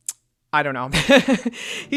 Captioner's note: laughs